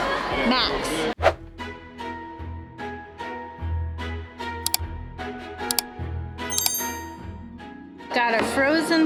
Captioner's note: click; swipe